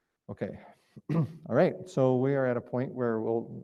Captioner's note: clears throat